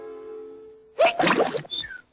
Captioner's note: hiccups